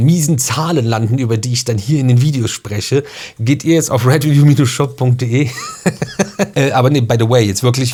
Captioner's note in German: gelächter